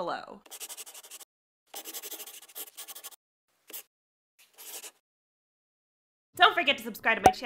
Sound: the sound of a pen scratching. LOGO

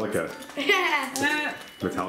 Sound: laughing

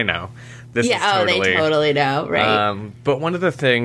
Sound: laughs

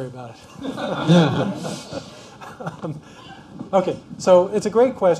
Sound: laughter

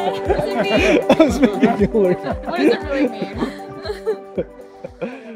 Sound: laughing

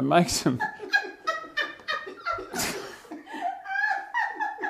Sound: laugh.....heaps

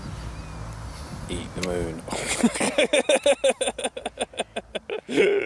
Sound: laughing loudly

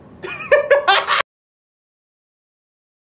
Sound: laughter

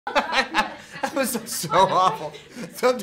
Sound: laughter

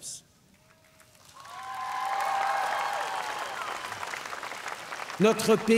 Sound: cheers & applause

